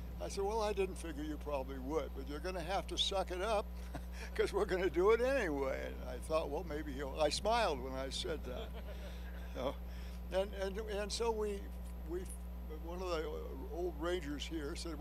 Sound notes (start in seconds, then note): 3.8 chuckles; 8.4 laughter